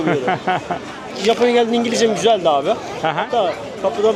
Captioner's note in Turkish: kahkaha